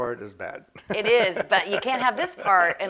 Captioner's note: laughs